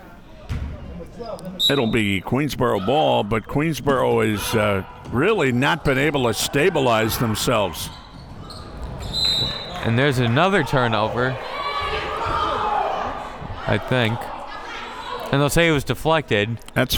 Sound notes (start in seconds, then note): 1.6 whistle tweeting; 9.0 whistle tweeting; 12.1 crowd members shouting